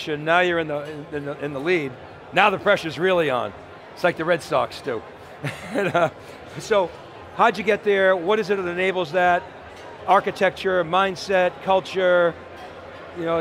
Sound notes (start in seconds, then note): 5.4 laughs